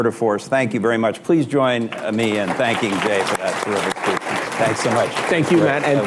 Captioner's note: applause